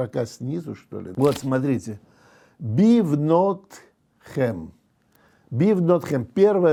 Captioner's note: reads in Hebrew